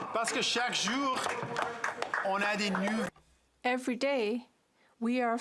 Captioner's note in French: voix de l'interprète